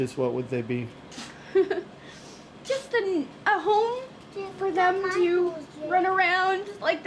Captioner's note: laughs